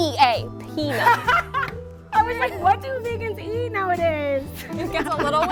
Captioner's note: laughs